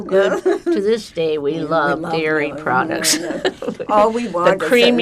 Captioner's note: laughing